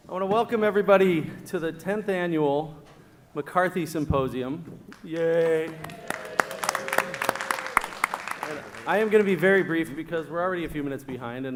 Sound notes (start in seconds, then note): 4.9 applause